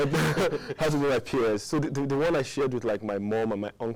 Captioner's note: laughing